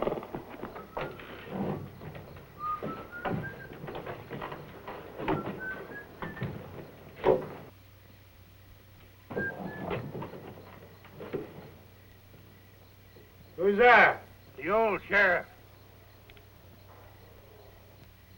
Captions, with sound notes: [WHISTLING] Who's that? The old sheriff.